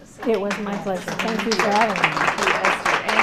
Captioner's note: applause